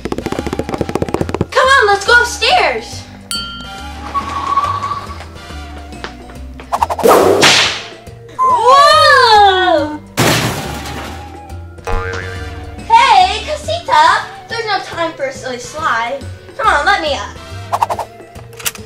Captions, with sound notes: - Come on, let's go upstairs. Whoa! (crashing noise) Hey, casita, there's no time for a slide. Come on, let me up.